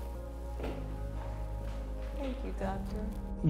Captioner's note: footsteps